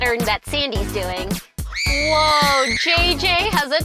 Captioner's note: energetic music; woman screams